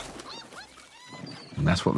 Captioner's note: bird squawks